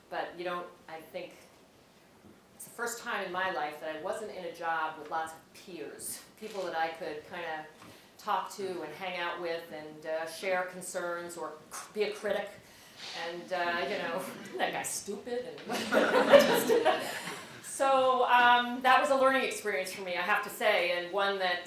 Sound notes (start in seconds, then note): 15.7 laugh